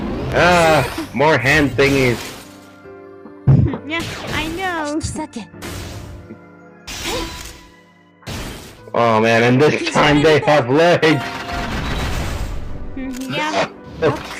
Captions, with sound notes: Aah, more hand thingies. *laughs* Yea, I know. Oh man, in this time, they have legs. Yea.